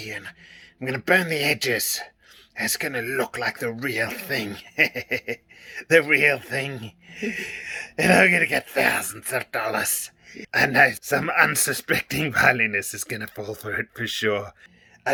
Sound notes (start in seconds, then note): 3.5 laughs